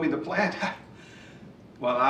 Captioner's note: Steve chuckles